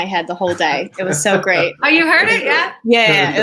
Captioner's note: laughs